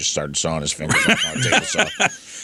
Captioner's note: laughs